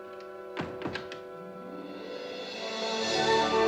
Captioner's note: light orchestral music; door clicking; grand orchestral music